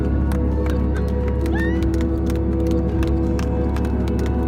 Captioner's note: clapping